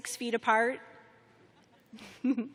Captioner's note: chuckling